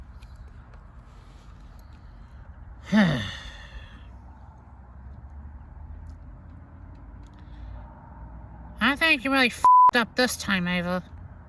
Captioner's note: sighs